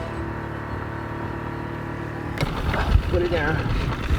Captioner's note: boat motor revving